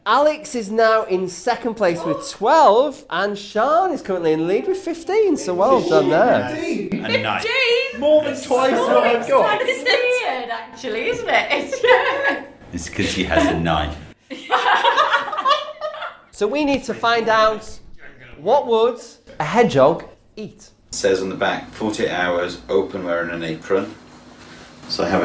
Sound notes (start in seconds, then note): 15.7 laughing